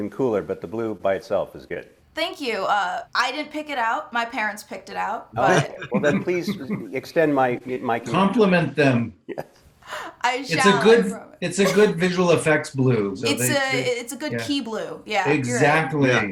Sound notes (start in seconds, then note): 5.4 chuckling